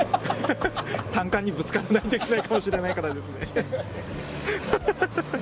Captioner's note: laughs